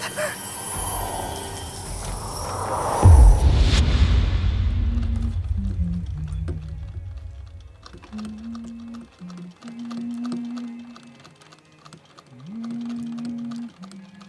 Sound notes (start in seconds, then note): 1.4 wind howling; 3.5 dramatic orchestral music; 5.8 Emma humming; 5.8 soft Victorian music